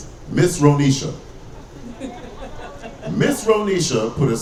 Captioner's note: audience laughing